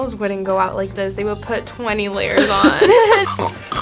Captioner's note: laughs